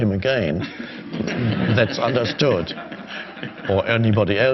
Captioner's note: crowd laughing